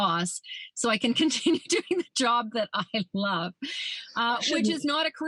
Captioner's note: laughs